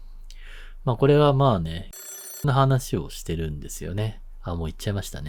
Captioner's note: phone sound